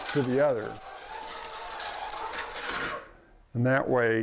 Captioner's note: metal-on-metal scraping